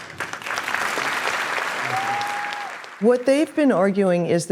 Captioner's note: applause